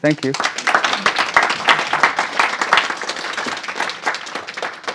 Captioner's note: audience applauds